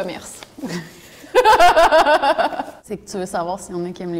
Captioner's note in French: rires